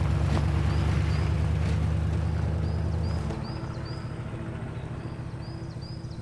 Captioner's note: birds chirping